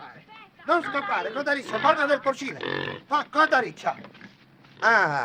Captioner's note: pig squeals; speaking foreign language